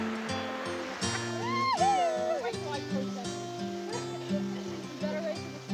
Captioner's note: laughter